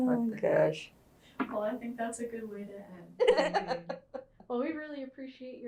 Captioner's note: laughter